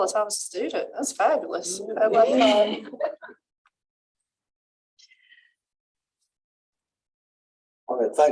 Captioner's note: laughter